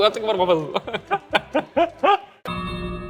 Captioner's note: both laughing